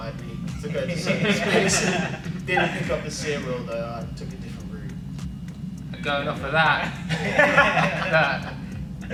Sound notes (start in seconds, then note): 7.0 laughing